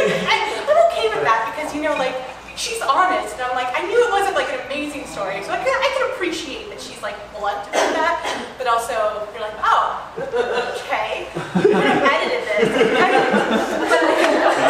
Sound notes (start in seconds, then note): 11.3 laughter